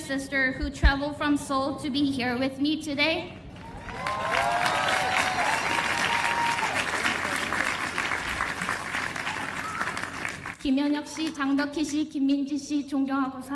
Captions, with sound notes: and my sister who traveled from Seoul to be here with me today. [ Cheers and applause ] [ Speaking in Korean ]